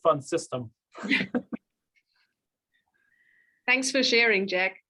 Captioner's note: panelists chuckle